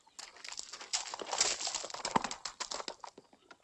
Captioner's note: horse trotting